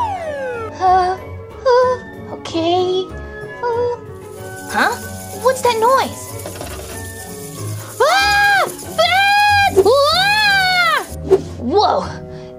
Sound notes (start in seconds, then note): 4.2 rattling; 7.0 bats Chirping; 8.4 Gekko Screaming